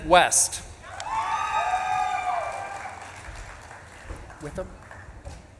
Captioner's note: audience claps and cheers